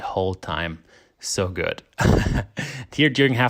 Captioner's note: laughs